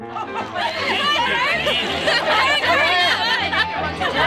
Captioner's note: laughter and indistinct chatter